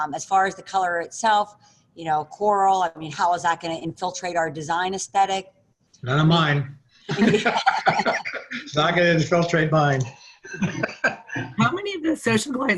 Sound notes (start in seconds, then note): 7.1 laughs